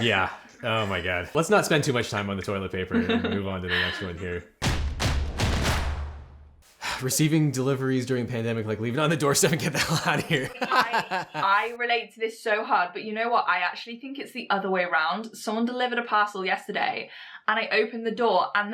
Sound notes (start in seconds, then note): 3.6 laughs; 4.6 drums beat; 9.6 host laughs